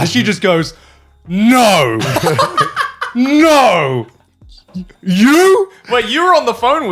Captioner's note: laughing